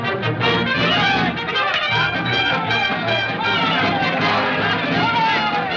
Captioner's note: clowns Shouting